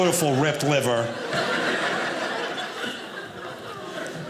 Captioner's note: audience laughing